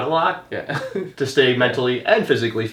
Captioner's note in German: lacht